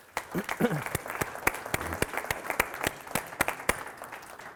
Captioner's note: audience applauding